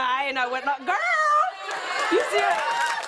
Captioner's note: applause